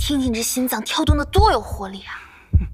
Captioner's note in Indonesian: Jantungnya berdebar kencang